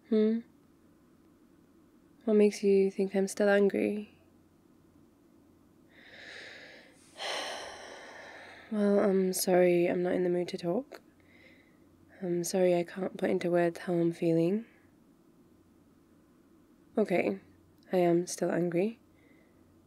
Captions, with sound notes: hmm? what makes you think I'm still angry? *sigh* well, I'm sorry I'm not in the mood to talk I'm sorry I can't put into words how I'm feeling ok, I am still angry...